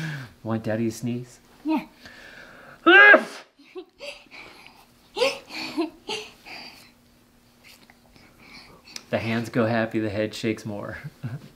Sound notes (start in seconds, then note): 2.8 sneezing; 5.1 laughing